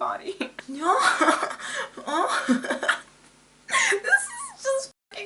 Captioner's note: laughs; laughs more